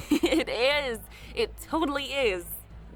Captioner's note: chuckles